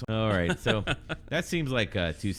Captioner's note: uh